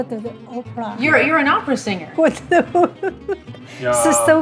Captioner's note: laughs